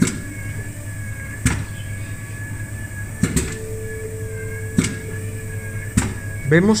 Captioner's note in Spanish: sonidos máquina de lavar